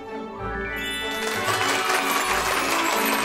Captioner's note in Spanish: aplausos